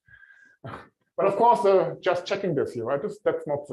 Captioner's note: laughs